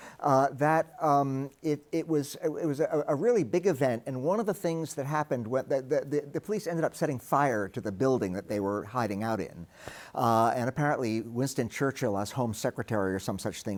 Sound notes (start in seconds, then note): none